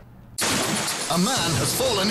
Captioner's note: crash